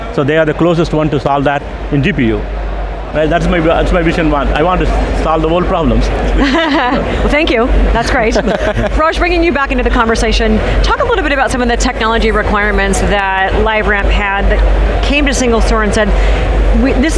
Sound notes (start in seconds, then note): 8.2 chuckles; 8.2 laughs